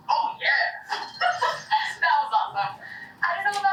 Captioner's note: chuckles